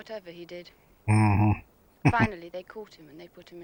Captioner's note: chuckling